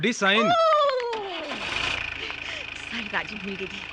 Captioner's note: Jerep Engine Start